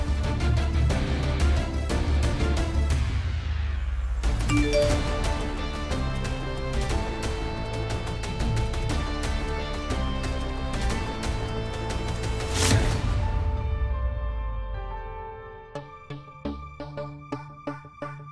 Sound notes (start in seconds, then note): 4.5 phone chimes; 16.3 pensive music playing